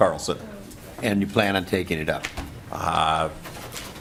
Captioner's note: laughing